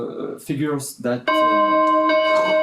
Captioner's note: ringing